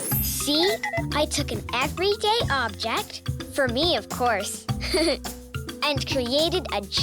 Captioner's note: laughs